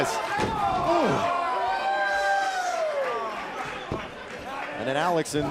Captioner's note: crowd cheering